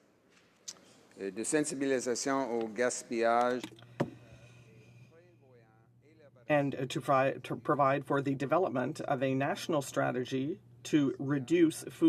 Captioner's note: speaking french